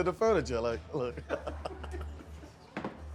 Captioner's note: laughter